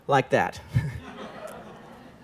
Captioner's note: laughter